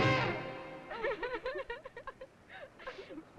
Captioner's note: girls crying